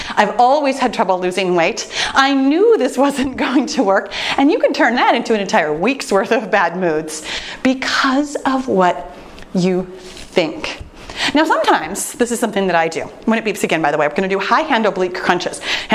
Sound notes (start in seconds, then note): none